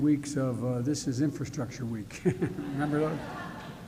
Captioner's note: laughter